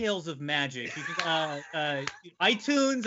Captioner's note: laughing